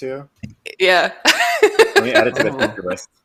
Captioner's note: laughs